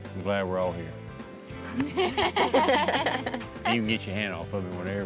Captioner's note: everybody laughs